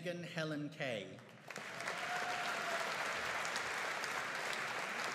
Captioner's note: audience applauding